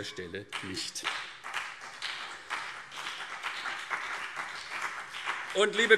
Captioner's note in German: Beifall CDU und BÜNDNIS 90/DIE GRÜNEN